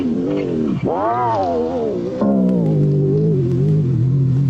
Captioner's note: winding slows down